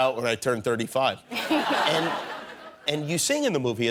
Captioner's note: laughter